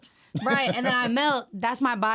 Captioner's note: laughing